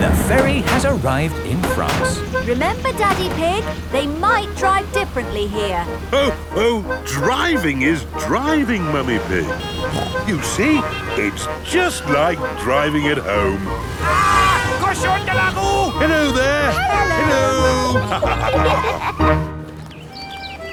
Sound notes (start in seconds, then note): 14.6 yells; 18.4 laughter